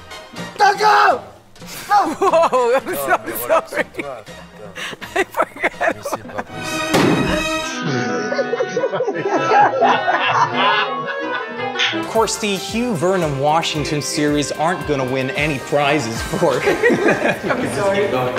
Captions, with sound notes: [Explosion] - Jesus Christ [Laughter] - Of course the Hugh Vernum Washington series aren't going to win any prizes for- [Laughter]